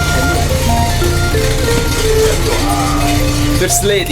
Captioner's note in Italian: Borbottio motore